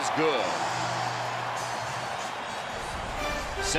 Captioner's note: cheering